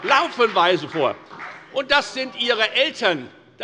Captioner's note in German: Beifall bei der FDP